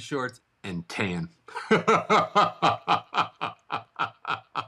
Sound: laughs

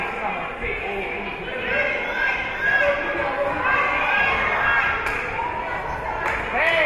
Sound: spectators shouting encouragements

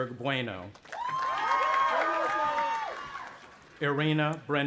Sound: audience applauding and cheering

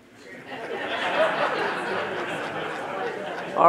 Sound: audience laughing

